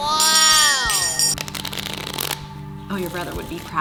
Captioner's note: deck shuffling